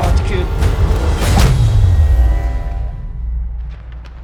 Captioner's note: punch thudding over tense electronic swell; footsteps crunching